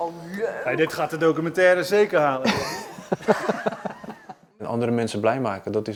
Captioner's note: laughter